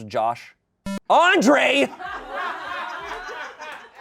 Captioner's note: electronic boop; people laugh